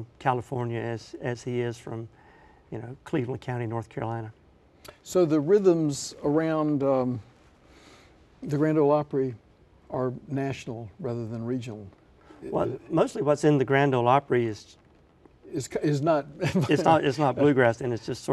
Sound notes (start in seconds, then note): 16.4 laughs